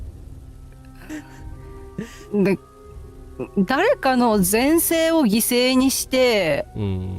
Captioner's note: laughter